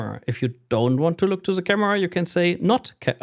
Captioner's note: none